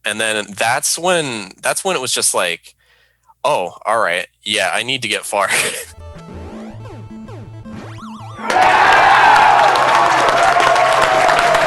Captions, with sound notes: And then that's when it was just, all right. Yeah, I need to get far. (chuckling) (crowd applauding)